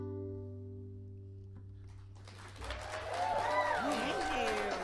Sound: audience applauding

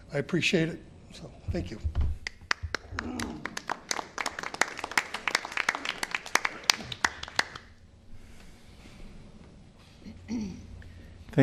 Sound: applause

